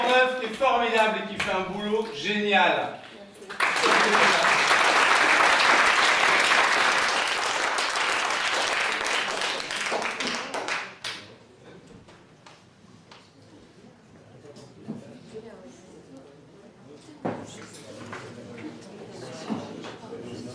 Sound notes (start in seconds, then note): 3.4 applause